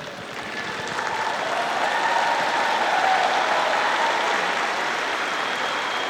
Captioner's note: graduates applauding